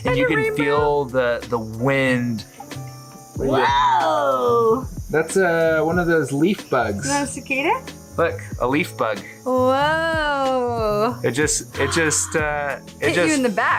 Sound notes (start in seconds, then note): 7.3 speaking foreign language